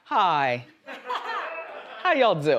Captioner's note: audience laughs